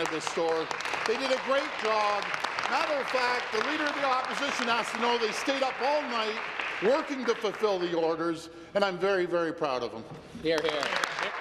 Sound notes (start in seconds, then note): 5.0 applause